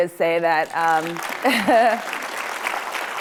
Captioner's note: applause